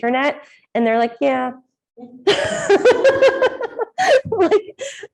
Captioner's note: laughs